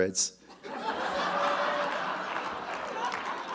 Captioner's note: audience laughs; audience applauding